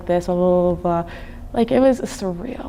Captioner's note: humming